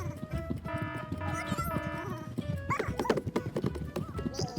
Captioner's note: alarm sounding